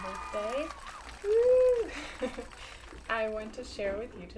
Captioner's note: cheers & applause